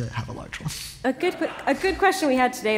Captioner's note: laughter